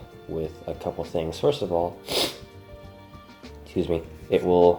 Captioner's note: sniffs